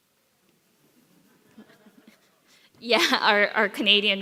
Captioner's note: some audience members laugh